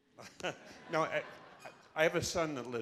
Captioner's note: laughing